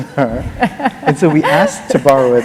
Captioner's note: laughter